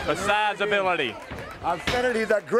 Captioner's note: crowd cheering